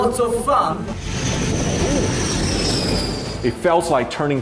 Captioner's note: plane engine roaring